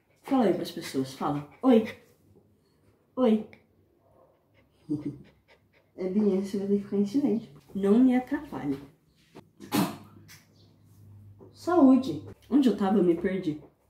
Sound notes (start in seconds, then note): 4.7 giggles; 9.6 sneeze